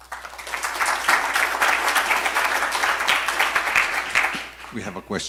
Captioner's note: audience clap